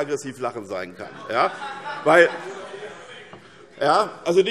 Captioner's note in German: Heiterkeit - Zurufe